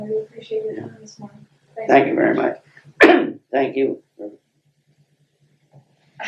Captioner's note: laughs